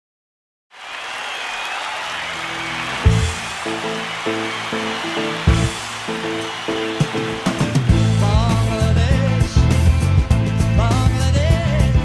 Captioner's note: crowd cheering